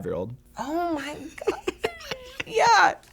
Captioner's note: snickering